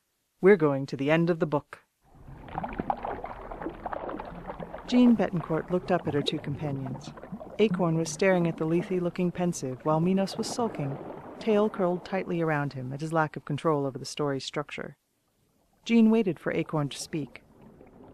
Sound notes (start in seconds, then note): 2.1 water gushes somewhere in the distance